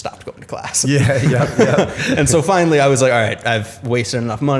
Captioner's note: laughter